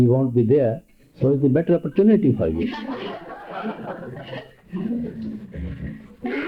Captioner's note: laughter